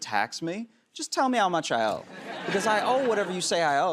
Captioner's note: laughter